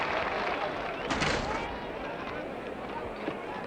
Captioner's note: crash sounds